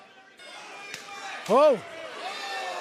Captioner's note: crowd chatter